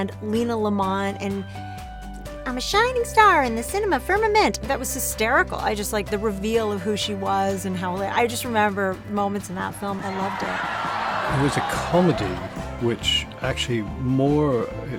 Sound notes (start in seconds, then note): 10.0 laughter